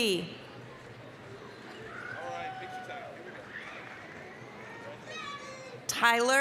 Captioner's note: applause, cheering